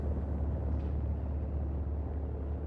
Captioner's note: none